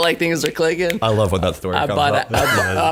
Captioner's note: snapping fingers